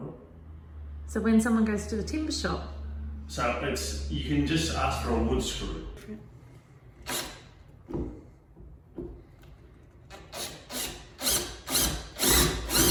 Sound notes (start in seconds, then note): 7.0 drill whirs